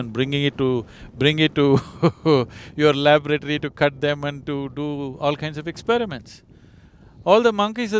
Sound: laughs

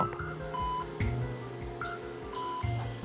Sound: machines beeping

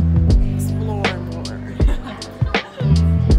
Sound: chuckles

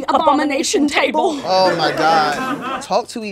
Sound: laughter

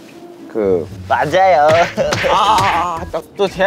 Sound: slap / Cutting his attempt short

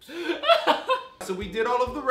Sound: laughs

